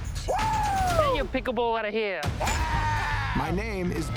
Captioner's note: exclaims